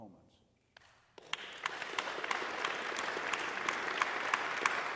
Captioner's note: audience applauding